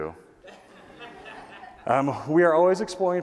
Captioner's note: laughter